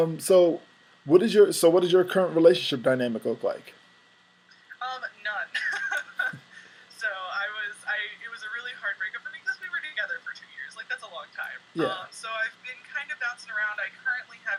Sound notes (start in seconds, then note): 5.5 laugh